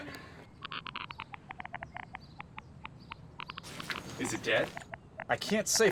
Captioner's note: monitor clicking